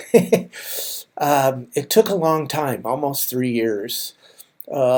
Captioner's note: laughs